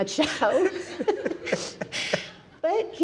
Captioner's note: panelists laughing